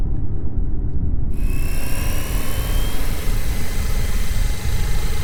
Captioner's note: drone whirring